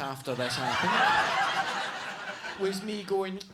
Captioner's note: audience laughs